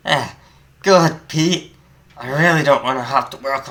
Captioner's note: in a deep voice